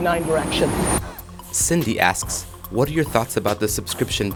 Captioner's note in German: Voice-over